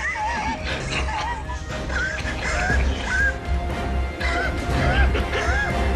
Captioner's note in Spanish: Risas